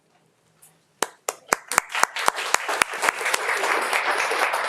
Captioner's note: audience applauding